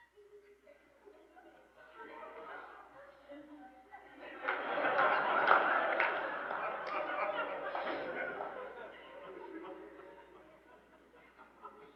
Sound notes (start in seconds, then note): 2.1 laughter; 4.2 some loud laughter